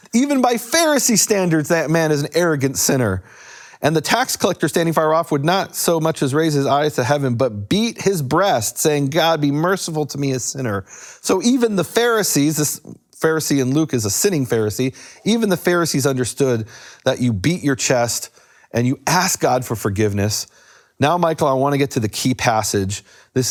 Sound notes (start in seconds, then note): none